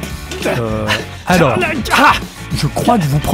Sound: struggling noises

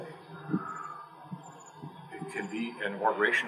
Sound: exhale

